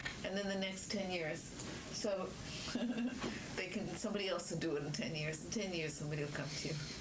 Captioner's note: laughs